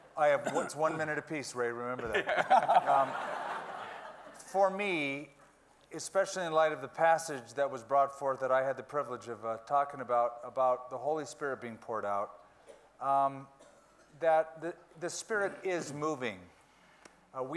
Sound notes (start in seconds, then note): 2.1 everyone laughing